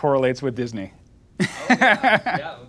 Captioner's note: laughing